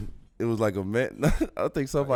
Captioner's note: laughs